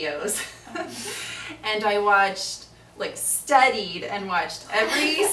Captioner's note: laughs